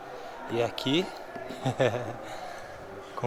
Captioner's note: laughs